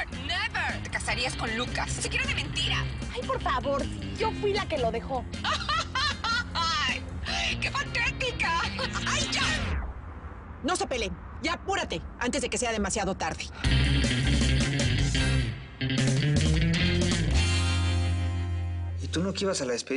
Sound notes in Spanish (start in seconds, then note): 5.4 Carcajadas